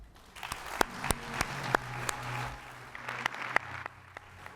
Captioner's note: applause